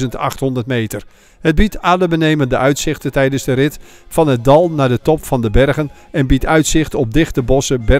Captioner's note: voiceover